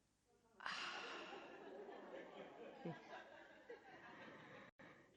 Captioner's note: audience laughing